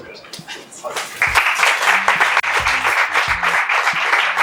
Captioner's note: applause